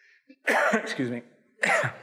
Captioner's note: coughs